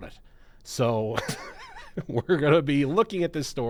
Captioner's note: chuckles